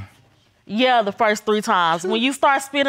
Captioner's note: scoffs